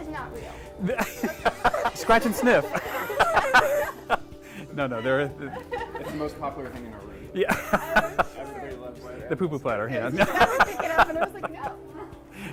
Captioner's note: laughing